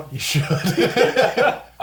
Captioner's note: all laugh